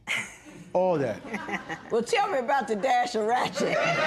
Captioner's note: laughter